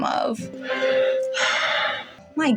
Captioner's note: Bingo Sighs Heavily